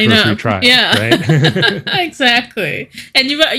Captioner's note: laughing